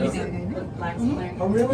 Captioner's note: chatter